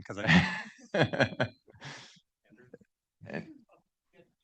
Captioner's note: laughing